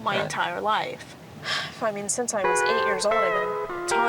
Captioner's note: sighs